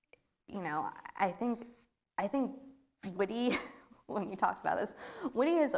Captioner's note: laughs